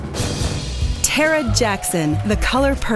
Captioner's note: drumroll; applause